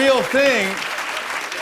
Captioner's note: applause